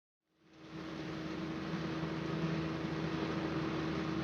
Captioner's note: engine roaring